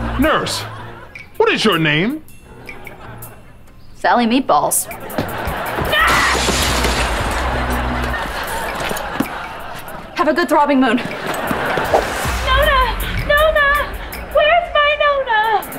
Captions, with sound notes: Nurse, what is your name? Sally Meatballs. [glass smashing] [laughing] Have a good Throbbing Moon. Nona, Nona! Where's my Nona?